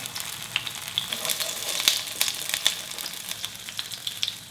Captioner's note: tofu sizzling